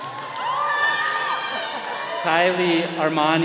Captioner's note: all cheering